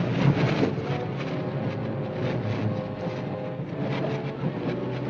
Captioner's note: train clacking